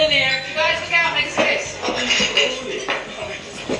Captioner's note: shouting